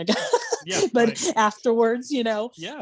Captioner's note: laughing